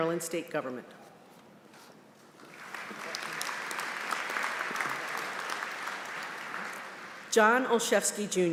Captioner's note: applause